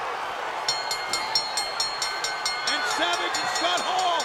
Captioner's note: bell ringing